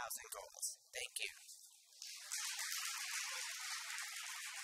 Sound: audience applauds

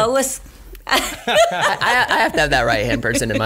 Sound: laughs

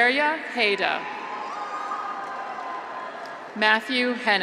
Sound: graduates cheer

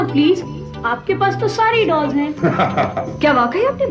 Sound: laughs

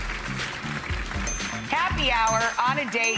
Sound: dinging

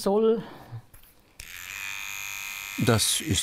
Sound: whirring

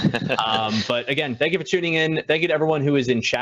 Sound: chuckles

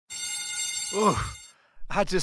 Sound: school bell rings

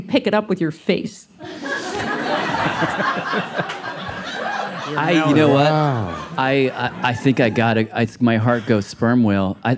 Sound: laughter

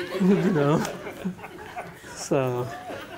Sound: laughter

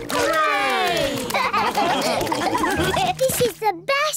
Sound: all laugh

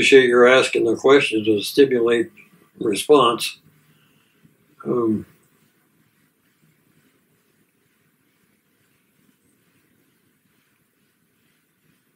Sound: long silence

